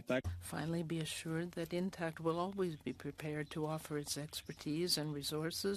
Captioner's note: speaking French